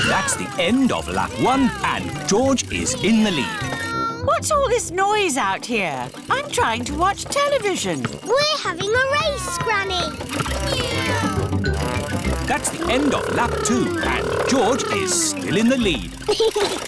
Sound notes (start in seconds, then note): 10.8 kids imitating vehicle sounds; 16.1 chuckles